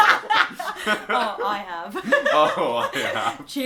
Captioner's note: laughs